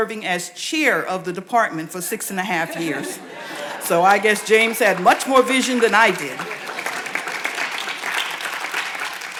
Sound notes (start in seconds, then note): 2.6 audience laughs